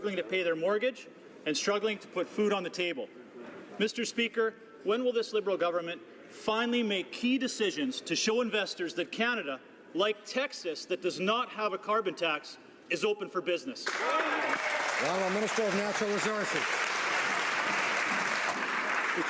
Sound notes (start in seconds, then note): 17.1 some Applause